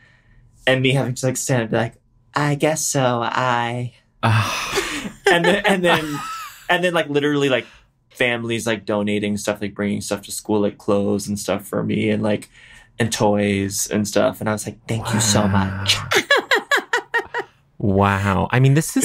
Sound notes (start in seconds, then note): 4.2 sighs; 4.7 vanessa laughs; 16.0 vanessa laughs